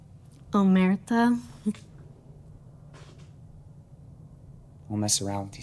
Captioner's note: Taffy speaking in Italian